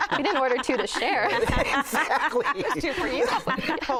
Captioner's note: laughter